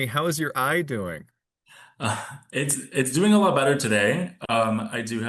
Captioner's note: chuckling